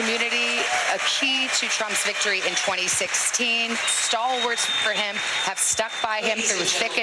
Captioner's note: cheers and applause